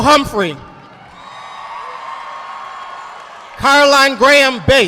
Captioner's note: audience applauding